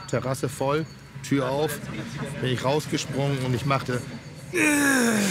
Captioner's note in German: Stöhngeräusch